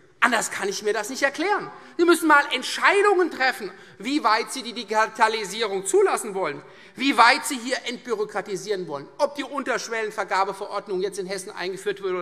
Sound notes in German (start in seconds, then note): none